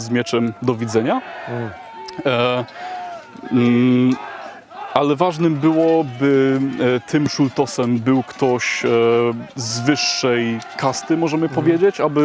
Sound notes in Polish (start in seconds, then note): 1.8 Aplauz